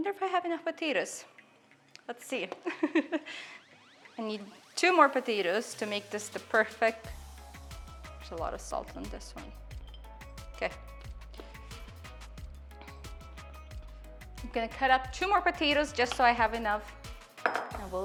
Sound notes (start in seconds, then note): 3.2 laughs; 11.5 upbeat music